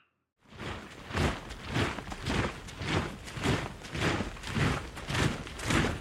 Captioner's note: rhythmic marching resounds